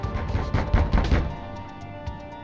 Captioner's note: knocking